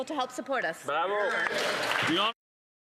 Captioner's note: some Applause